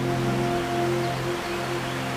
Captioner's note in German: Vogelzwitschern